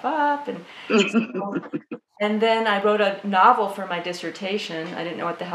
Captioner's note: laughter